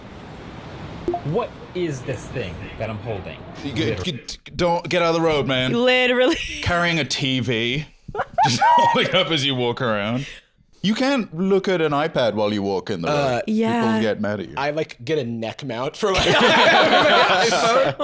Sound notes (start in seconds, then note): 3.7 stammering